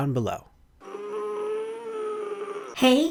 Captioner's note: grunting